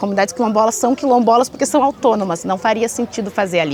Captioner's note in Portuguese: conversas e ruídos de obra ao fundo